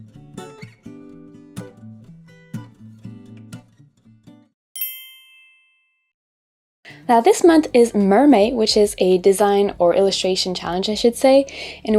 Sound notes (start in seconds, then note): 0.1 calm music; 4.7 bell chiming